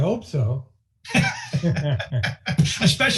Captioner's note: laughing